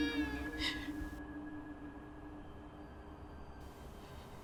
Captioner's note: baby crying